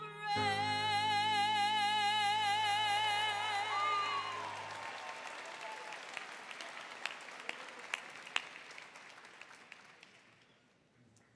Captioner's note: applause